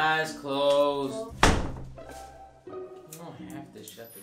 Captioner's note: door slamming